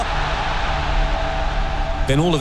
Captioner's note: crowd noise